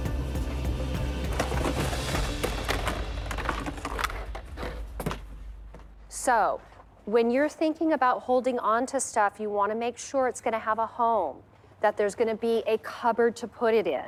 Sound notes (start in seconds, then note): 0.0 tense music; 1.1 objects clattering